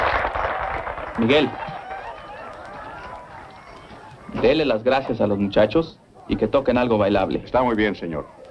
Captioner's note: applause; speaking spanish